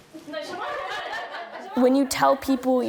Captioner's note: laughing